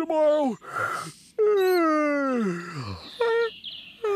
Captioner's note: yawns